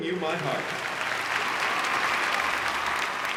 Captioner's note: applause